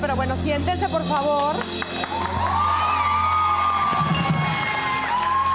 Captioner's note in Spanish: Público ovaciona